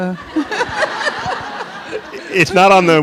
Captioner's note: Angela Davis and audience laugh